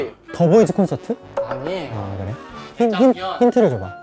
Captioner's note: disappointed